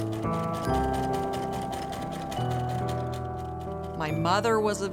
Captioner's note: sewing machine